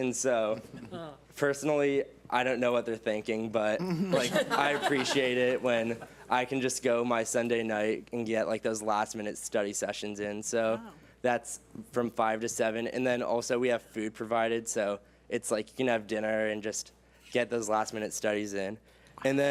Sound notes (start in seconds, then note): 0.6 board members chuckle; 3.8 board members laugh